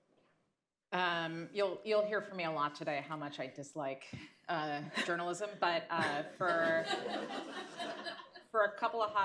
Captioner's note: laughter